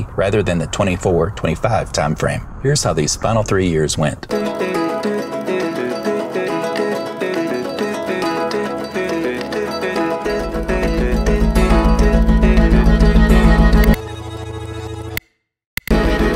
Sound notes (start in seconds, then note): 14.1 music rewinding; 15.4 silence